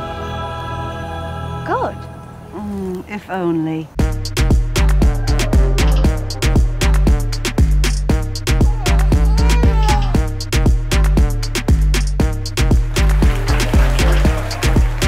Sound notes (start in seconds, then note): 4.1 uplifting bright music; 8.4 baby sobbing; 12.7 audience applauding